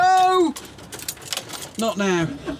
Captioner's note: engine stalls